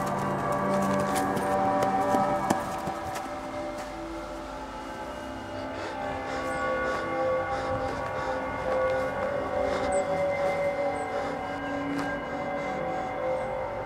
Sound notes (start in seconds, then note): 6.0 panting heavily